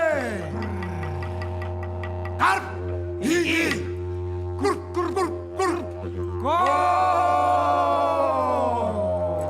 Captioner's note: speaks indigenous language